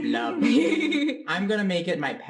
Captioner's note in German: alle lachen